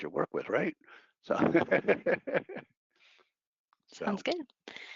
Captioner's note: laughing